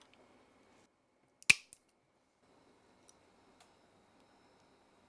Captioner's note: glass snapping